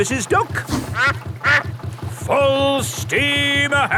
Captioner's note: quacks